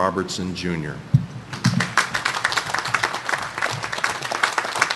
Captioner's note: audience applauding